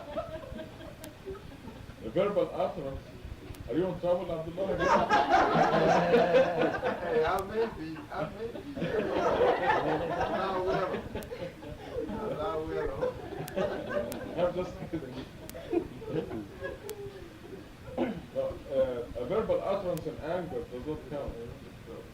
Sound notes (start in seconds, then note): 4.7 laughter; 8.9 laughter; 13.9 laughter